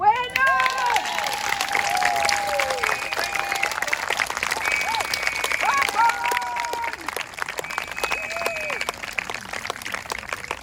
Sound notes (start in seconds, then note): 0.0 applause